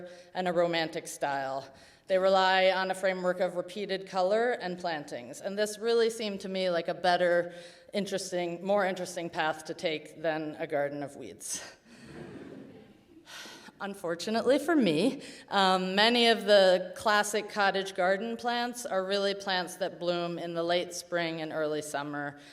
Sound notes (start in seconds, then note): 12.0 audience chuckles